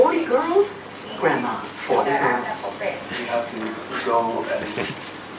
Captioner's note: man laughs